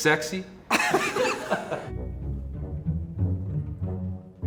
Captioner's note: laughing